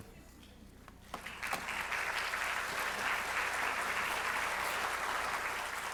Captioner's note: audience applauding